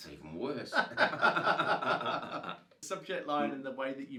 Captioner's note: laughing